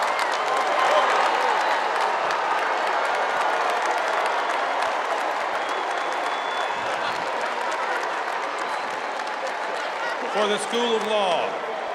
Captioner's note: cheers and applause